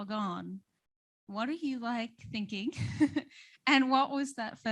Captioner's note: laughs